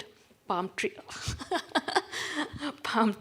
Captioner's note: laughs